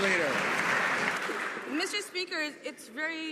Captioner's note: some Applause